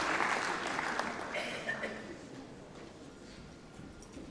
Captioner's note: applause